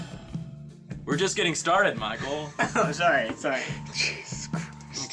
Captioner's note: laughs